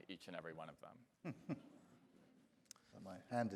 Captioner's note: chuckling